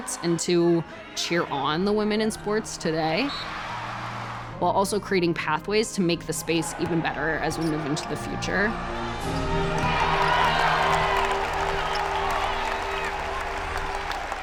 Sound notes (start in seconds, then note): 3.2 crowd cheering; 3.3 referee whistle blowing; 9.3 crowd cheering